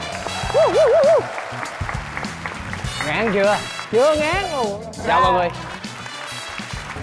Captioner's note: applause